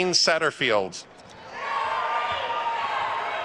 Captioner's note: attendees cheering and applauding